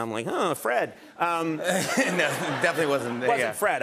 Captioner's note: laughter